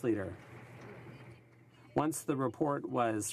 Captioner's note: some Applause